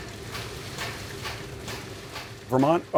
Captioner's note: machinery sounds